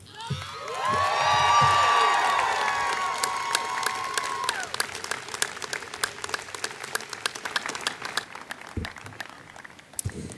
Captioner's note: applause